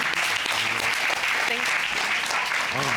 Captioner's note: applause